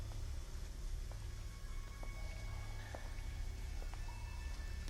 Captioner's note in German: Schritte